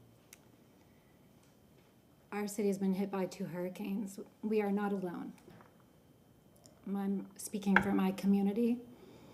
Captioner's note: breathing